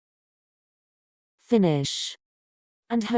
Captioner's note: TouchChat voice